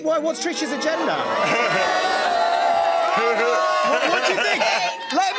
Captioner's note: audience oohs